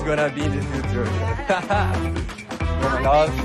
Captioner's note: laughs